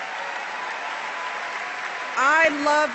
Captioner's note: applause